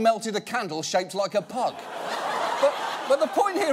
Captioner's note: audience laughs